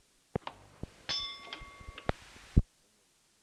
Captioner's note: bell Sound